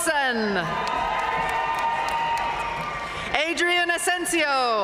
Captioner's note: audience cheering and applauding